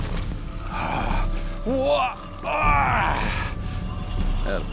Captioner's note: grunts loudly